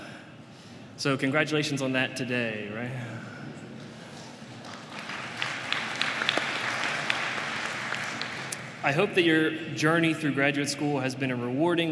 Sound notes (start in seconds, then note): 4.0 applause